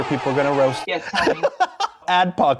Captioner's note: laughs